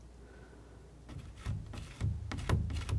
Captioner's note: scratching